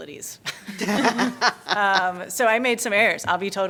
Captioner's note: laughter